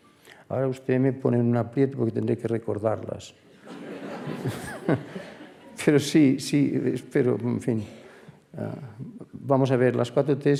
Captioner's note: laughs